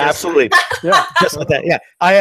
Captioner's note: laughing